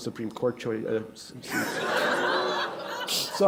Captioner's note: laughter